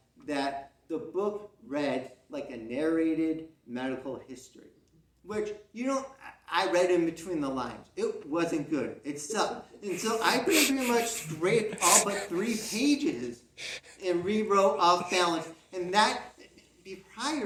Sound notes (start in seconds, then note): 9.9 muffling sounds as tries to not laugh